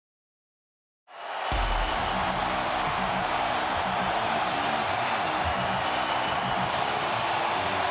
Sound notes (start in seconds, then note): 1.1 crowd cheering; 1.6 hard rock music